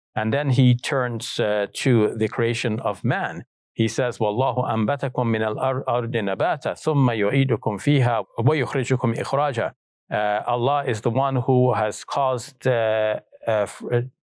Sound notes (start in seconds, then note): 4.8 speaks in Arabic